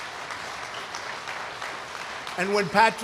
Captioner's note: applause